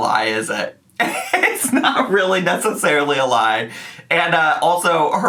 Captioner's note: laughs